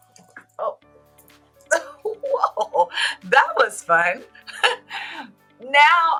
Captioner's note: laughter